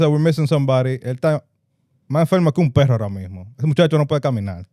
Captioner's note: speaking Spanish